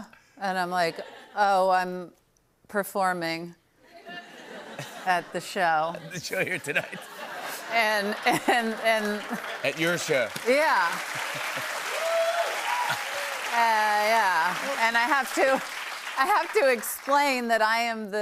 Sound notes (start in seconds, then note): 7.0 laughter; 11.2 cheers and applause